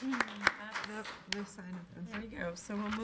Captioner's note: clapping